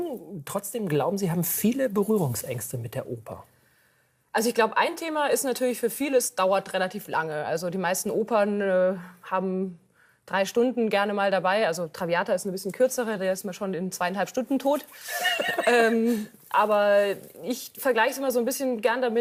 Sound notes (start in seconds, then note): 15.1 laughs